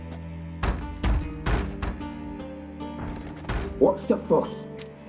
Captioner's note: pounding on door